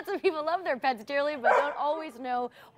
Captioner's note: dog barking